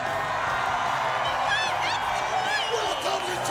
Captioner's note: crowd cheering